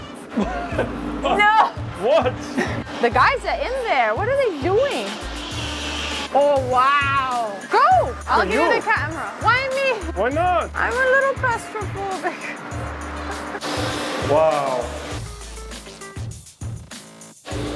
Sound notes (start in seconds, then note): 0.3 laughing; 5.2 machinery whirring; 12.6 machinery whirring; 13.0 laughs; 15.2 upbeat funk music